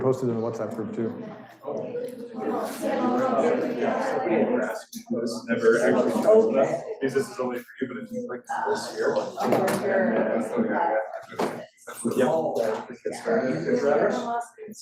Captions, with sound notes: We can post it in the WhatsApp group, too. (students chattering)